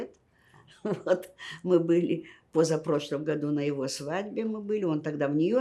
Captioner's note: laughing